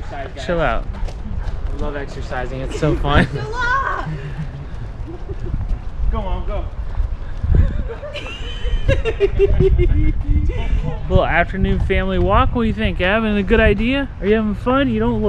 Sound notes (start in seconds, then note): 7.5 giggling